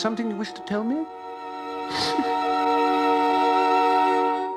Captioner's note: sobs